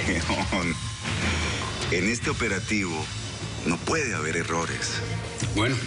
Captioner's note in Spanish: Ríe